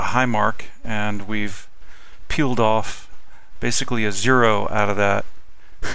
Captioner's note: laughing